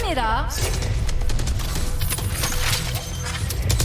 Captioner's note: gunshots